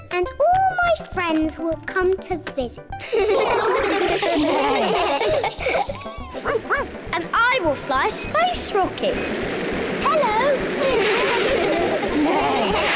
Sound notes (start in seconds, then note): 3.0 all laugh; 6.4 barks; 10.8 all laugh